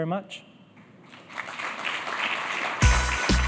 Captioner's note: applause